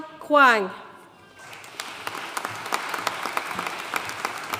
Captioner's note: audience applauding